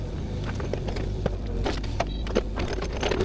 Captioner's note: machinery whirring